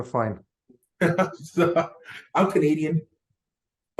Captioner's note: chuckles